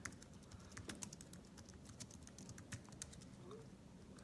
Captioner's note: keys tapping